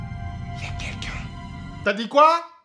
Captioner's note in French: en chuchotant